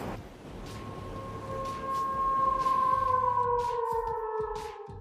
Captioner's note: wolf howls